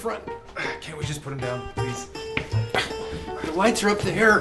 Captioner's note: noises of struggle